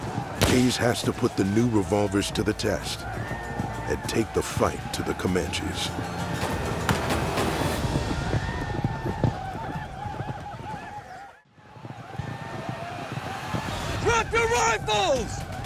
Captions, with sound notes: HAYS HAS TO PUT THE NEW REVOLVERS TO THE TEST - AND TAKE THE FIGHT TO THE COMANCHES. [GUNFIRE] DROP YOUR RIFLES!